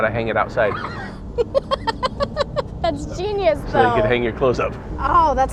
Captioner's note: laughs